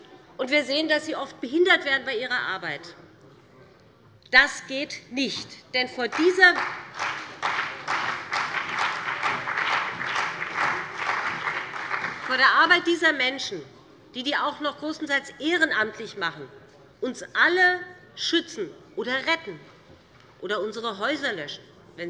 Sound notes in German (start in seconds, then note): 6.1 Beifall bei dem BÜNDNIS 90/DIE GRÜNEN und der CDU